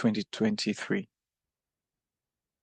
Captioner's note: speaking French